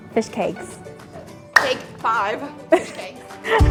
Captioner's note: clap